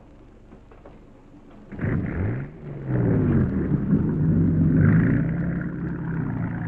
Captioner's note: boat engine rumbling